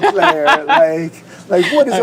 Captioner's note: laughs